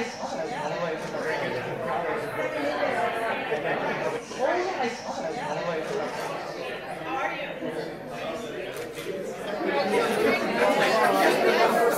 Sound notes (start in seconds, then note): 3.0 crowd noises